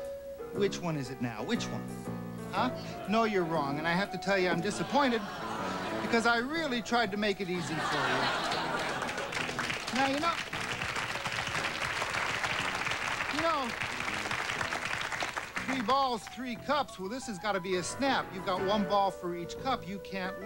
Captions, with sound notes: WHICH ONE IS IT NOW, WHICH ONE? HUH? NO, YOU'RE WRONG. AND I HAVE TO TELL YOU I'M DISAPPOINTED. BECAUSE I REALLY TRIED TO MAKE IT EASY FOR YOU. NOW, YOU KNOW... ( applause ) YOU KNOW... THREE BALLS, THREE CUPS THIS HAS GOT TO BE A SNAP. YOU GOT ONE BALL FOR EACH CUP, YOU CAN'T LOSE.